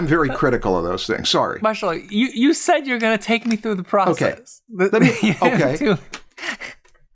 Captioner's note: laughs